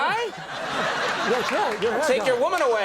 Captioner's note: audience laughs